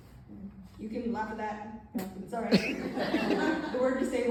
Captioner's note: laughter